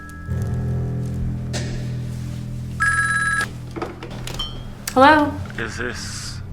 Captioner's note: suspenseful dramatic music; phone receiver clatters